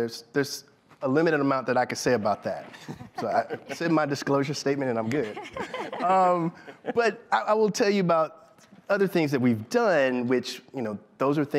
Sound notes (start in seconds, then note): 4.9 laughter